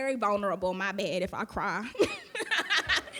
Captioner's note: laughing